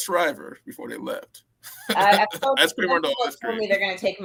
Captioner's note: laughter